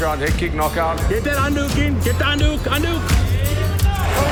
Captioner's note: speaking in foreign language